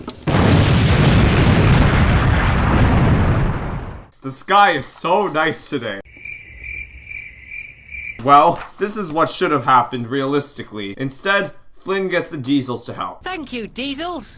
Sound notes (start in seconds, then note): 0.2 explosion; 6.0 crickets chirping